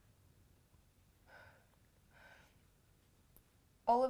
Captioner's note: Rose sighs